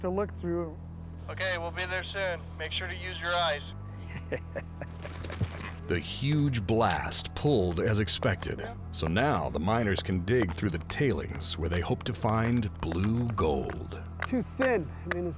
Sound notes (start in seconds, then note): 4.0 chuckling